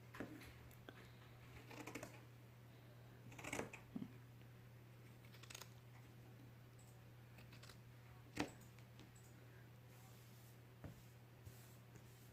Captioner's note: sound of scissors cutting